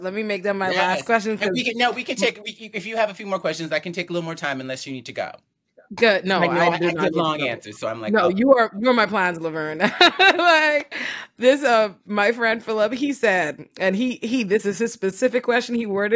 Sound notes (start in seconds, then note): 10.7 laughs